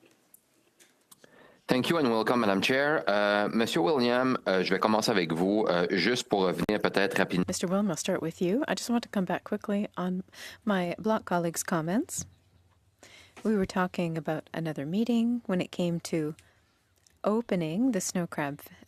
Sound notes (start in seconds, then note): 11.6 speaking French